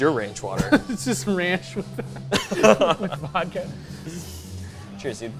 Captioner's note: laughs